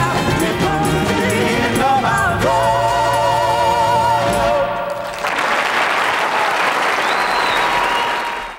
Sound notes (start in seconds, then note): 5.0 audience applause